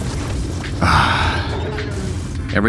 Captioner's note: roars